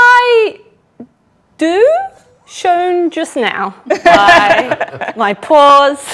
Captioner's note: group laughs